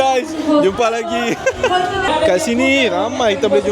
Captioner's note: laugh